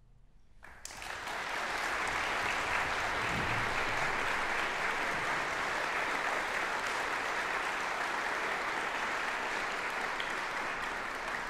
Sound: audience applause

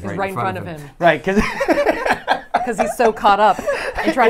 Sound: laughs

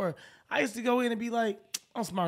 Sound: smacks teeth

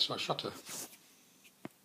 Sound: pause

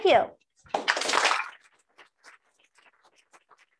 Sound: applause

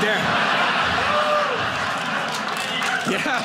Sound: audience laughing

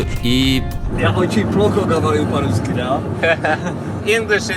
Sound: in russian

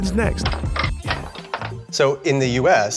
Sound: pinball Sounds

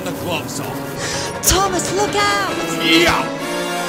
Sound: gasp; grunt

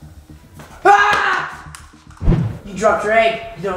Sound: screams

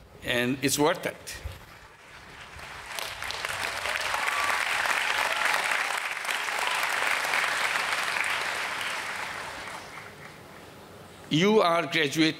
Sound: applause

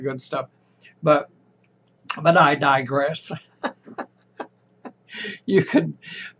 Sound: laughs

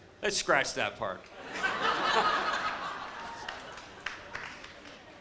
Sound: audience laughs

